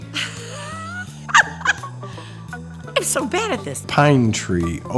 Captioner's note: laughs